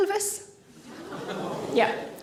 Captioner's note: audience groan